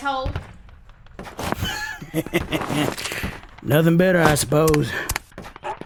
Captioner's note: chuckles